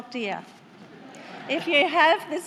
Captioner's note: laughter